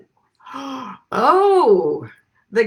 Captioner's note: gasps